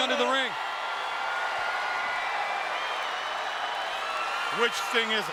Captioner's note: audience cheering